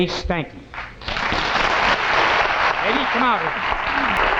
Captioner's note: audience clapping